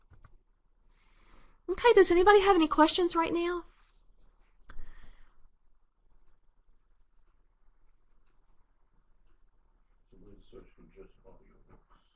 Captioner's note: pause